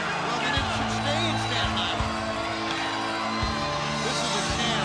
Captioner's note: crowd chatter